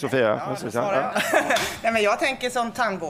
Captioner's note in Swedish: skratt